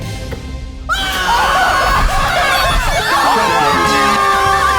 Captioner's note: everyone exclaims